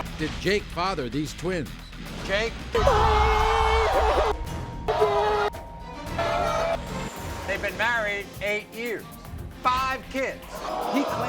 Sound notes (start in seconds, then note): 2.8 audience screaming; 4.9 crying